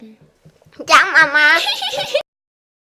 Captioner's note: in a mocking tone